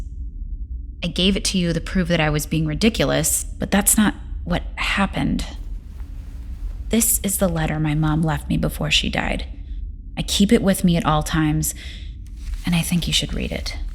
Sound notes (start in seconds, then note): 5.6 sounds of paper